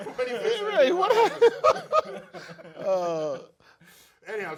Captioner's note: laughs